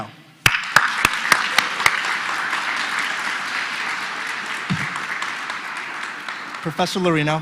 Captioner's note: applause